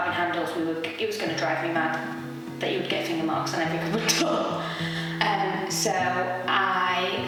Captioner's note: laughs